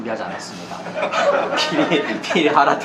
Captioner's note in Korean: 웃음